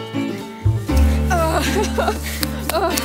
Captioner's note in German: Stöhnen, Lachen